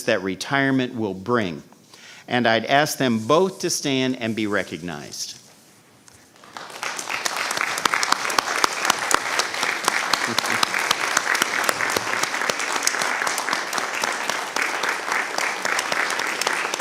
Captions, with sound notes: that retirement will bring. And I'd ask them both to stand and be recognized. (applause)